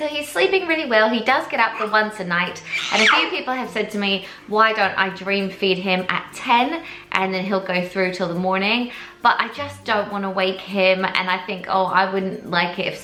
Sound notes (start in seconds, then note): 2.5 baby wails